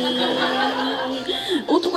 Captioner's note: gasp!